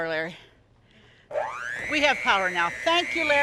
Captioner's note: mixer whirling